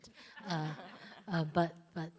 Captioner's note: laughs